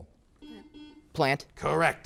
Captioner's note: buzzer beeps